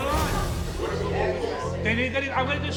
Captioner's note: audience murmuring